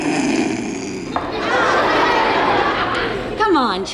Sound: Charlie snickers; audience laughs

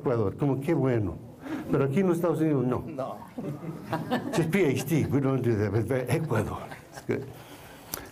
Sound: foreign Language

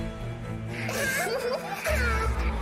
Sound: giggles

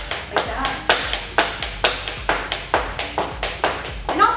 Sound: shoes clanking

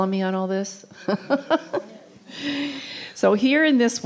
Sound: laughing

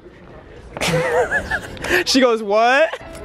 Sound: laughing

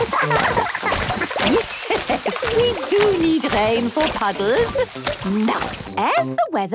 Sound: laughing; Madame Gazelle laughing

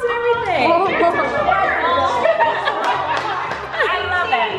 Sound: laughing; clapping

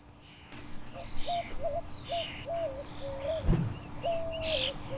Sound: birds chirping

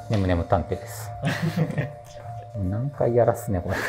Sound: laughing

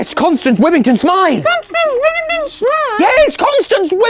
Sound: frantically

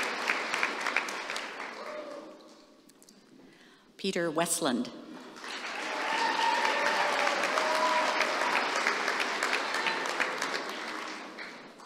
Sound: applause

